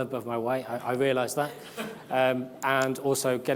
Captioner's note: audience laughs